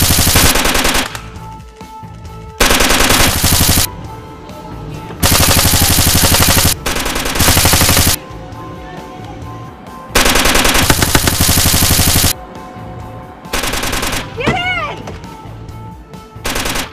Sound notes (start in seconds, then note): 8.6 people shouting faintly